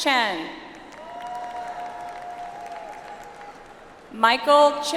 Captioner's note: audience applauds